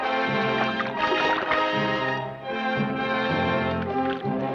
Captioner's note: water splashes